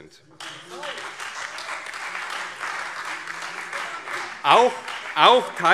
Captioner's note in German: Beifall CDU und Freie Demokraten